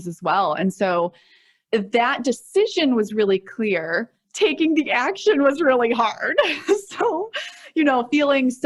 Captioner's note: chuckles